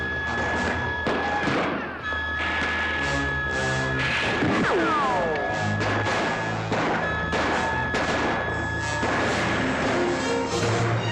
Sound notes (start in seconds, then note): 2.4 doors clatter; 2.4 dramatic music; 5.7 bullet richochets; 5.8 commotion & gunshots; 5.8 dramatic music